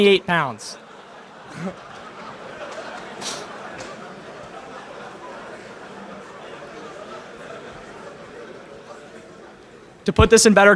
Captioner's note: laughter in crowd